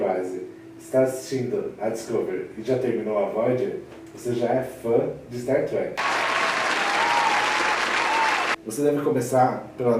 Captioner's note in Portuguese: Aplausos